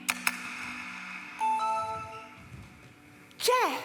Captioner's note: sound of an email arriving